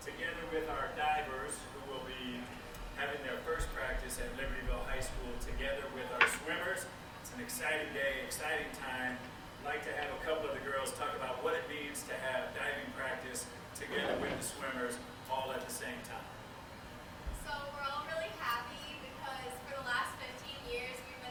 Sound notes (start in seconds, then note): none